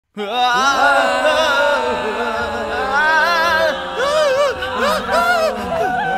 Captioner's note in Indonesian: Teriakan